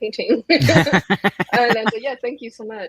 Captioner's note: laugh